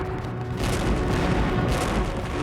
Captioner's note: gunshots